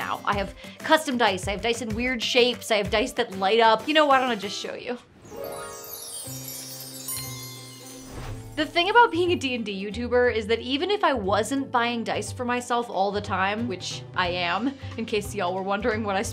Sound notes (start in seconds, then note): 5.4 soft music; 8.0 air whooshing